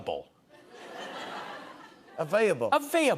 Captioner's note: laughter